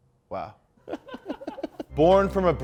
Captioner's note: laughs